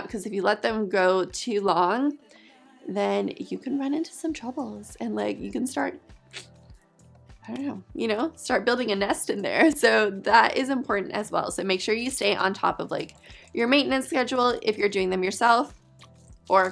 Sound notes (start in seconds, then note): 6.3 clicks tongue